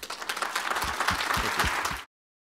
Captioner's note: applause